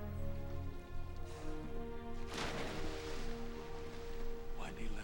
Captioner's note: splashes